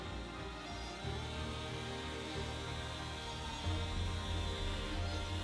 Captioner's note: gentle music continues; chainsaw roaring